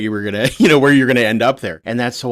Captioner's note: laughs